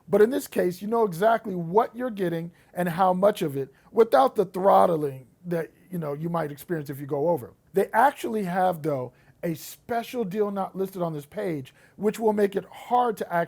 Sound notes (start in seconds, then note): none